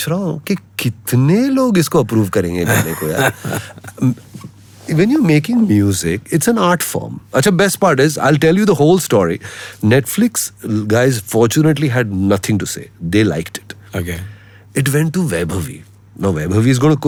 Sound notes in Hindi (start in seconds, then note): 2.6 हंसी